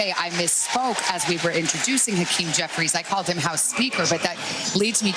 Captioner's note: cheers and applause